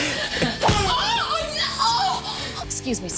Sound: strangled cry

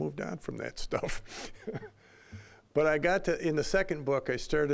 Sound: laughing

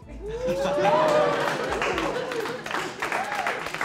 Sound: cheers and applause

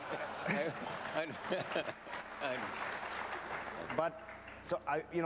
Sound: laughter

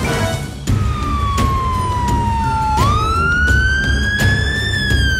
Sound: ambulance siren wails

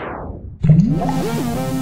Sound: futuristic rocket ship accelerating; funky electronic music; object plunging into water

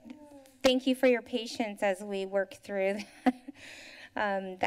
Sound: chuckles

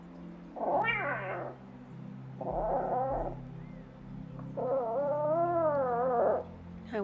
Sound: grunting and meowing

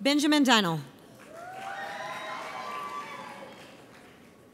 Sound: audience cheers

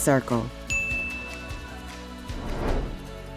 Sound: bell Rings

